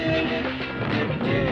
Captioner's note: crashing